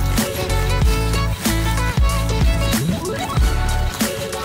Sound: upbeat pop music; robot running

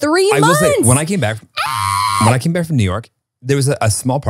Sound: screams

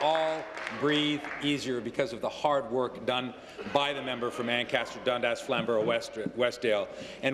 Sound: applause

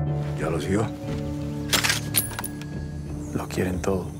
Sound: gun clicks

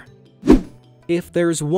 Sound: image whooshing

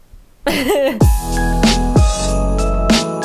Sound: laughs; holiday music

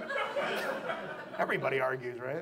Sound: audience laughs

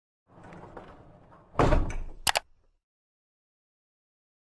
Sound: bump and click

